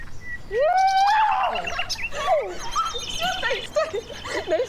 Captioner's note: cheering